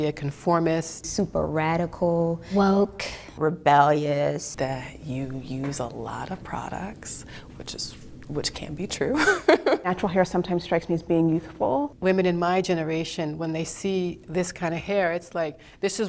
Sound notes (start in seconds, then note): 9.2 laughs